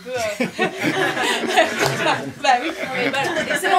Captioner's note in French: rires